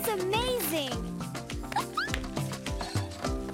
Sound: chuckling

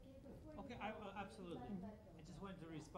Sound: voiceover

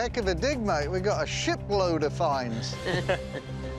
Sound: chuckles

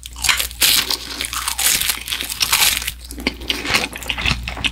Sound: the pleasant crunchy sound feels delicious

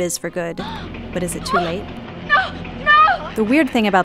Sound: gasps

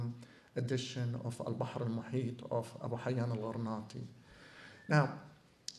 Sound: non-english

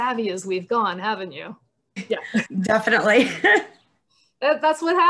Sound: laughter

